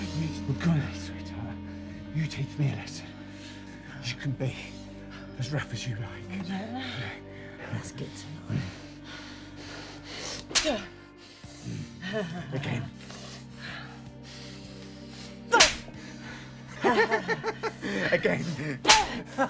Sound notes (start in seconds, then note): 10.3 slapping; 15.5 slapping; 16.2 laughs